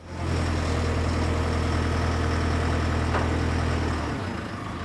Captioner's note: machine engine rumbling